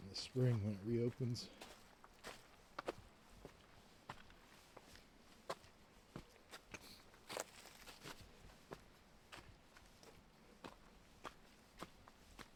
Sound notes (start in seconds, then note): 7.4 footsteps